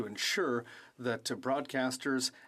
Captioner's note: speaking French